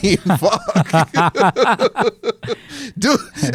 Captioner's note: laughs